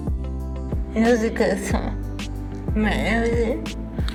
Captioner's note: speaking English